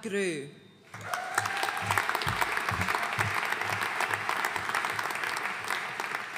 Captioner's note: audience cheering and applauding